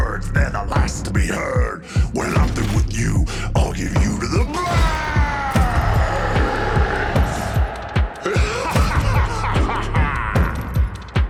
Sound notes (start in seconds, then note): 6.6 army cheering; 8.3 Goliath laughs